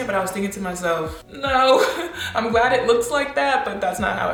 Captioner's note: laughs